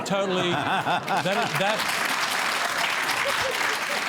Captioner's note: laughter and applause